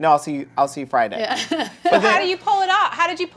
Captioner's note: laughs